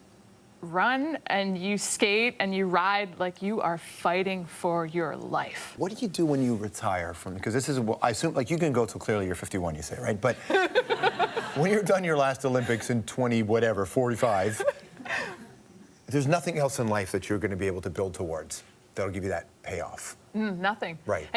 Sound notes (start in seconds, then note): 10.4 laughs; 14.3 chuckles